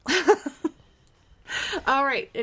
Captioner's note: laughing